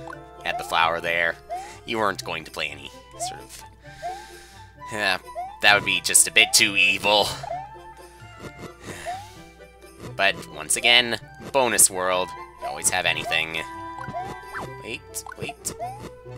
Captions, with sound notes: You had the flower there. You weren't going to play any sort of- Eh, that would be just a bit too evil. (*sigh*) But, once again...bonus world. You can always have anything. Wait. Wait.